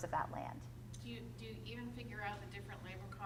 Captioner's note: voiceover